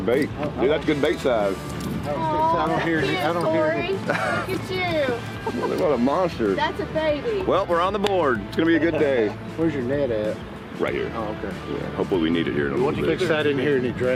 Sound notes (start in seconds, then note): 4.0 man chuckling